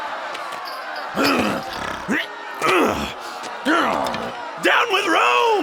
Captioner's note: chains clinking; Jesus Barabbas grunting